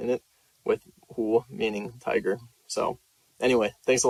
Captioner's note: speaks Chinese